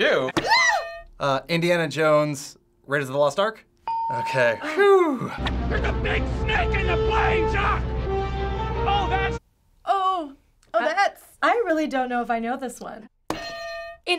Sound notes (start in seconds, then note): 0.4 yelping; 3.8 ding; 13.4 hitting bell